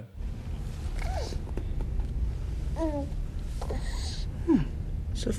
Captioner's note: baby cooing